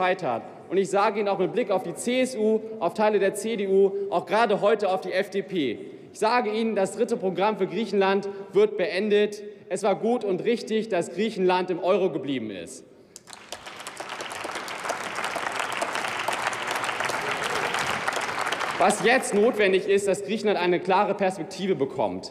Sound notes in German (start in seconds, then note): 13.1 Beifall